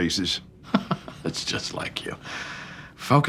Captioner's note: laughs